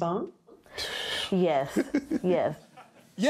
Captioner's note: chuckles